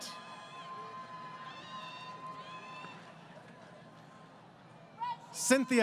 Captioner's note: crowd Cheering